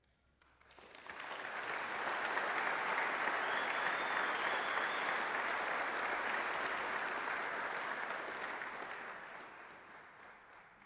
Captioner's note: applause